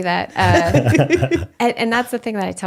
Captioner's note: laughing